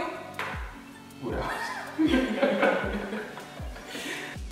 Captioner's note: laughing